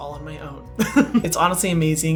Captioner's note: laughs